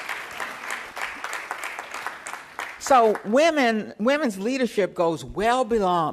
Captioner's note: applause